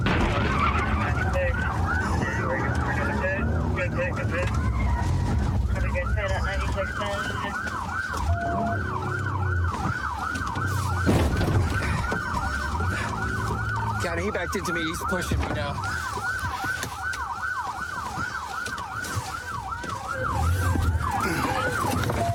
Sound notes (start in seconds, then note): 10.8 bangs; 15.9 sirens blaring